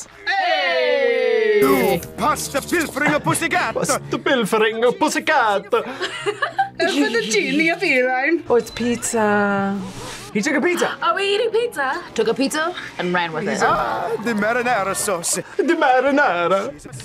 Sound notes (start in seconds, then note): 5.4 laughs; 11.1 gasps